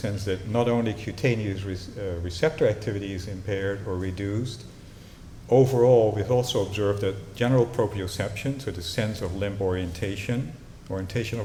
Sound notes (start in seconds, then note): none